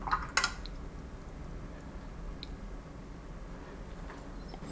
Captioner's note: sniffing